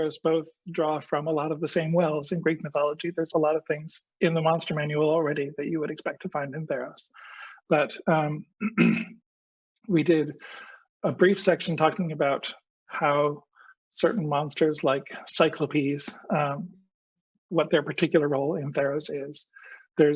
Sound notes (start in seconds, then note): 8.6 clears throat